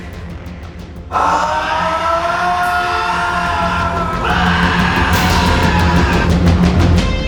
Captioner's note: screams